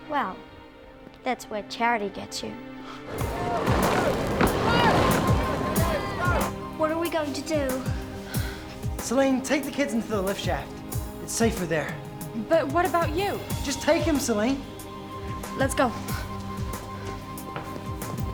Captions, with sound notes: - Well, that's where charity gets you. (yelling) - What are we going to do? - Salene, take the kids into the lift shaft. It's safer there. - But what about you? - Just take them, Salene. - Let's go.